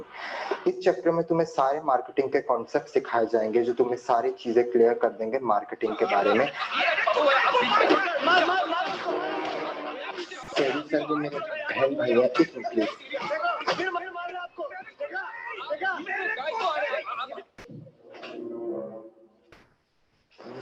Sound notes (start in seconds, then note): 0.0 speaking in Urdu; 7.2 commotion offscreen; 13.6 commotion continues to be heard, until the door is shut